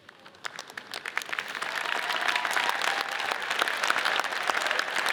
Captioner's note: audience cheers and applauds